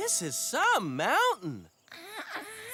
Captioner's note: straining